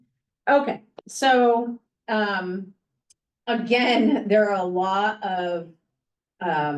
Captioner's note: sings; chuckles